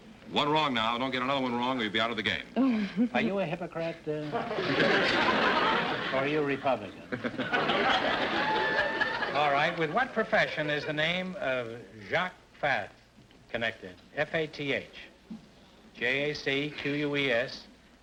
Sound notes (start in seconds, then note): 2.5 laughs nervously; 4.3 audience laughter; 6.9 laughs; 7.5 audience laughter